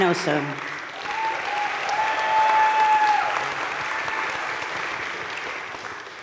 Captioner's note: audience cheering and applauding